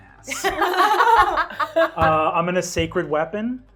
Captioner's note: laughing